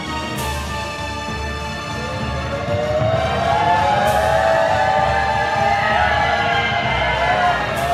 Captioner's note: cheering